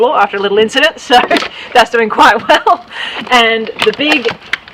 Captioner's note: laughing